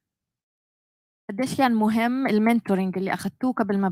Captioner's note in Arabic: لغة أجنبية